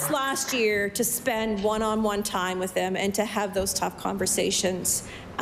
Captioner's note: applause